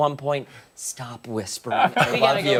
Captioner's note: laughter